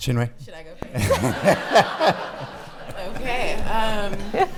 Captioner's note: laughing